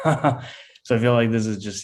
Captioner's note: laughs